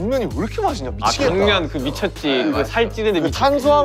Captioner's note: mouth waters